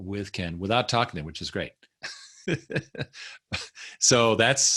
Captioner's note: chuckling